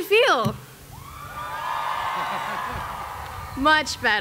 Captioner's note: cheering